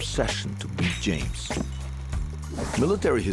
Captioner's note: thumping